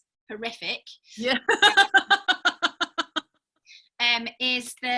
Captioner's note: laughing